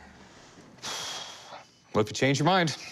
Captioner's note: sighs